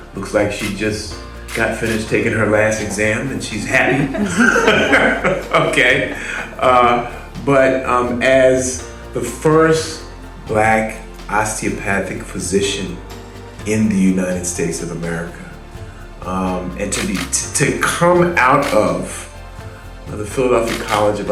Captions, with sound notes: Looks like she just got finished taking her last exam, and she's happy. (audience laughing) Ha ha ha ha, okay. But, as the first black osteopathic physician in the United States of America, and to come out of the Philadelphia College